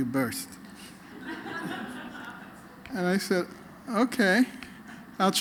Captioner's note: laughter